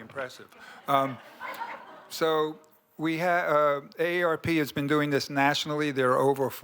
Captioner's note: laughter